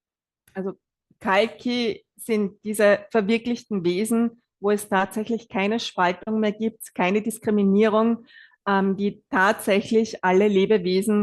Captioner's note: German live translation